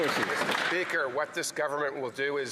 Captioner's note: some Applause